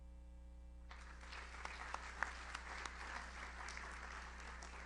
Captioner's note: audience applauds